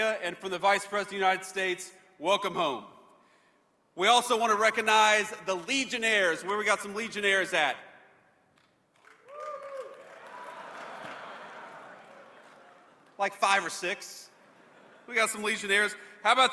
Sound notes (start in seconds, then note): 9.0 cheers